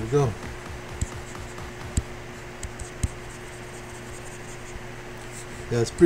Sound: faint techno music; computer mouse tapping

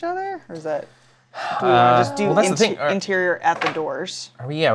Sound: sighs

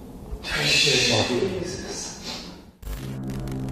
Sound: all gasping

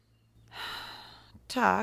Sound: sighs

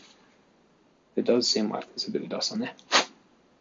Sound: blows dust off lens

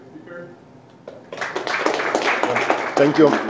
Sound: applause

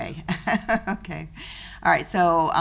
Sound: laughs

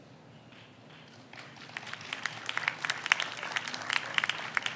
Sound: audience applauds

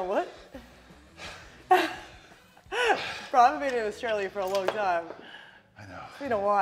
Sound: laugh

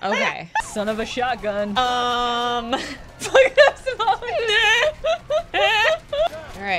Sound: laughter

